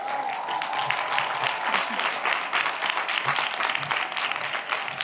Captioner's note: audience applauds